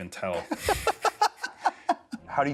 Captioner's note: laughter